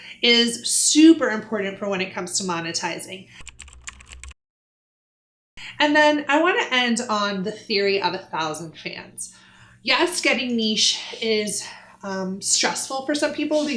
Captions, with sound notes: is super important for when it comes to monetizing. (keyboard typing) And then I wanna end on the theory of a thousand fans. Yes, getting niche is stressful for some people